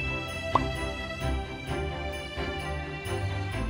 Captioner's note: ting; pop